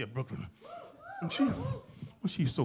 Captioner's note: audience cheering